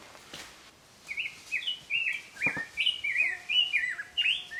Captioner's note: bird tweeting